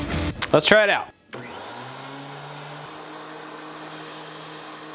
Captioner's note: vacuum whirring